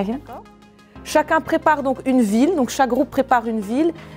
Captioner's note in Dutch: spreekt frans